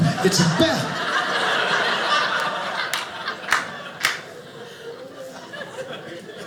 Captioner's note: audience laughing